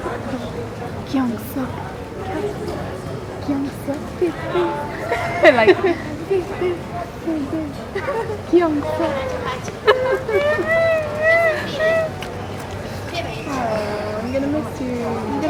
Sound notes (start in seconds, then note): 5.3 laughs; 8.5 fake cries